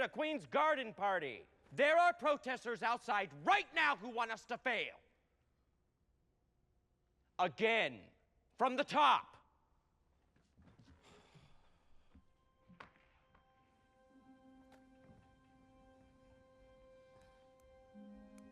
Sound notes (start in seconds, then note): 11.1 sighs; 14.1 somber music